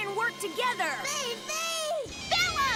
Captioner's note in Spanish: preocupado